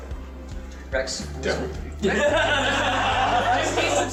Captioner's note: everyone laughs